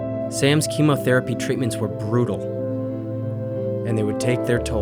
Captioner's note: voiceover